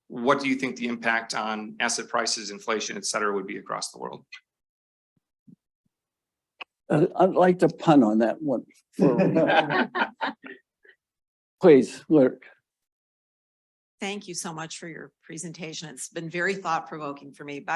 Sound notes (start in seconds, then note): 9.0 audience laughing